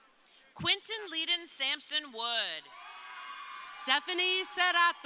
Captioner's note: crowd cheering